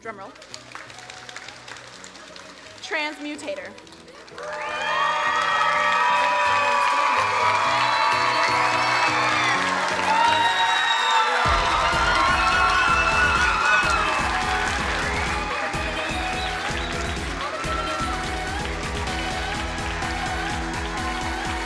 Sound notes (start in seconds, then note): 1.1 crowd applauding; 4.3 crowd cheering and applauding